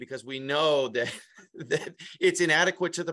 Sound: laughs

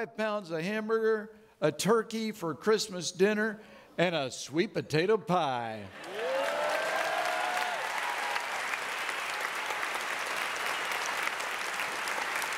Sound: audience clapping

